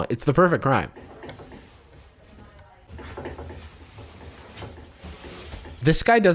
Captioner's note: items shuffling